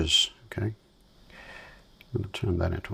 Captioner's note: silence